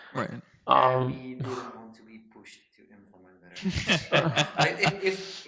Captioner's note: laughing